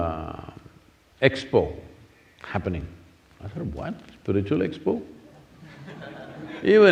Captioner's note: few laugh